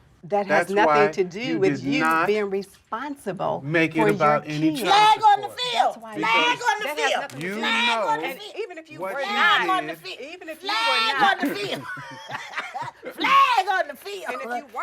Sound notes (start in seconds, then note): 11.1 laughter